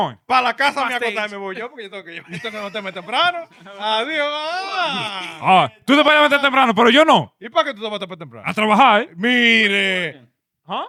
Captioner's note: speaking In Foreign Language